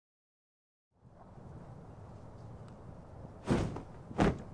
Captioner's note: whohiosng; rustling